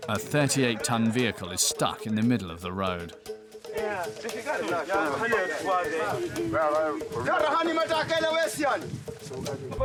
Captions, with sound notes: A 38-ton vehicle is stuck in the middle of the road. [Portuguese spoken audio]